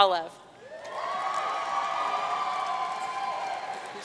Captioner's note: audience cheering